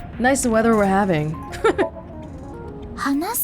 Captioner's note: chuckles